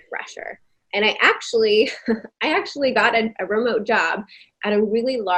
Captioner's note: giggling